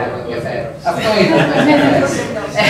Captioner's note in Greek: γέλιο στην αίθουσα